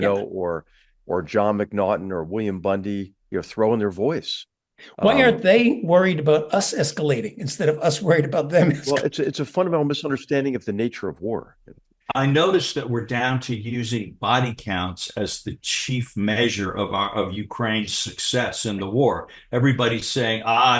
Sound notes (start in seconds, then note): 8.5 laugh